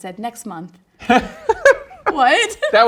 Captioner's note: laughs